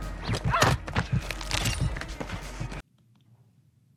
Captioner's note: character groans